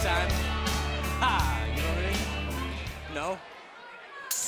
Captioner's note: crowd cheering